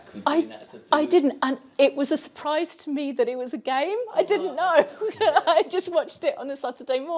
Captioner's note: laughs